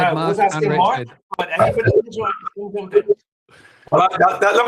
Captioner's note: audio glitches